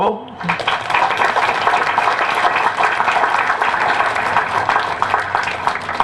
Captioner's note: applause